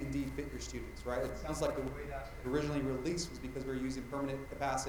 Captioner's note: mic cutting out